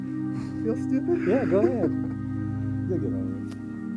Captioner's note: laughing